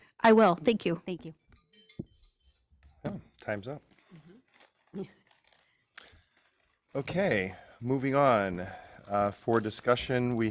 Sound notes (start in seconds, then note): 1.6 alarm chimes